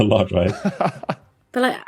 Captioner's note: chuckles